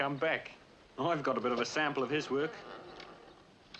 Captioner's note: gate creaking